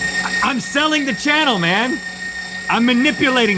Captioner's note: meat grinder sounds